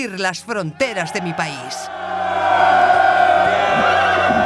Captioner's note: soldiers cheer